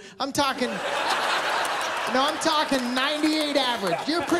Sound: laughter

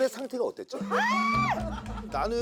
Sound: scream

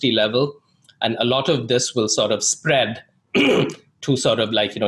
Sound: clears throat

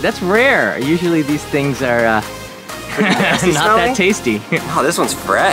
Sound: laughs

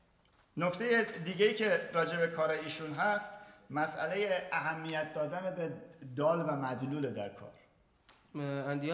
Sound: speaking in farsi

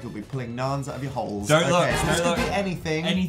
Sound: don't look noise

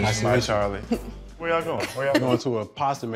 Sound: giggling

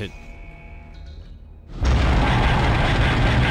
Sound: door alarm

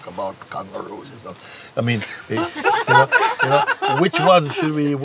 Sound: laughter

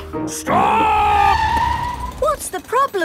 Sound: tires screeching

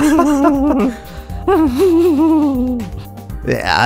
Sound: presenter and Customer laughing, nervously laughing; nervously laughing on his own

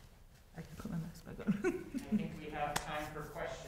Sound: laughs

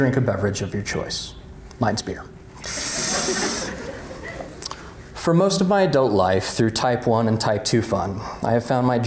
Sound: laughter

